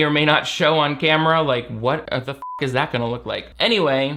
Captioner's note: beep